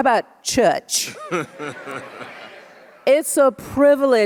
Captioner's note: audience laughs